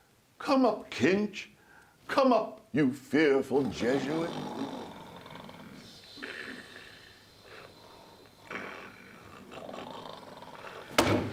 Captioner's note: the ensemble are all asleep, snoring loudly